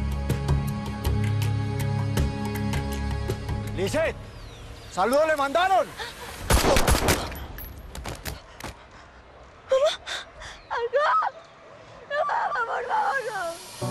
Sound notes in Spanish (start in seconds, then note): 6.5 Disparos